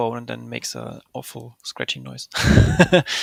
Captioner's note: laughing